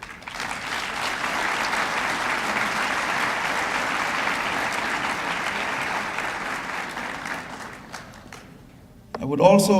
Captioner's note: applause